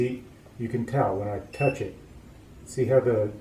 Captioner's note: beeping starts and stops; short beep